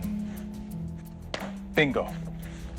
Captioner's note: tapping